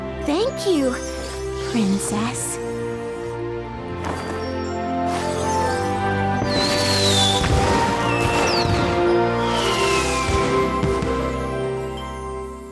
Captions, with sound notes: Thank you... Princess. [explosions]